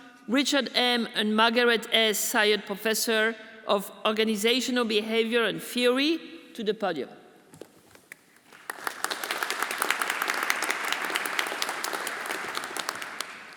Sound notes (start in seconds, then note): 8.1 everyone applauding